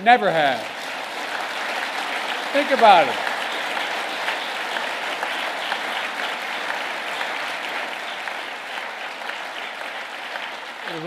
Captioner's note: applause